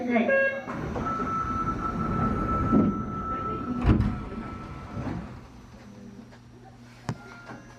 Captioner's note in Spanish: sonido cierre de puertas